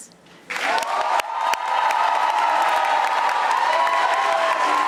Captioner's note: audience applauding